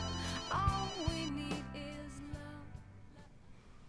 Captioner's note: phone ringing